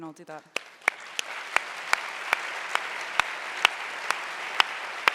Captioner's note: audience applauding